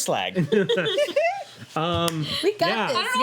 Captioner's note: laughing